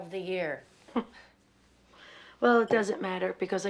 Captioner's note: chuckles